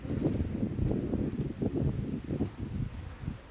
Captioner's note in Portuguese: vento